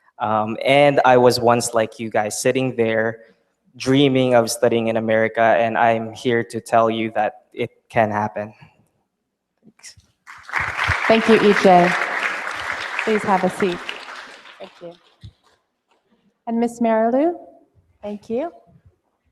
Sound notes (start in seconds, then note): 10.2 applause